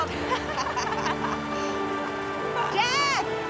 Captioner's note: both laughing